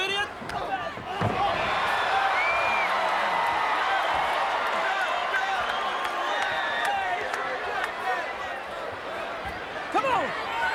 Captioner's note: applause